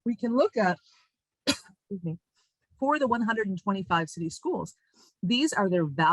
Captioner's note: coughs